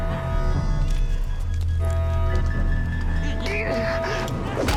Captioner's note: grunting